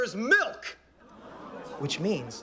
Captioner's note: audience gasps